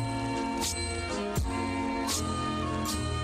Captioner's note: none